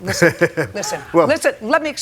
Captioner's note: laughs